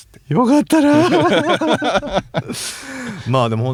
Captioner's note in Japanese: 笑い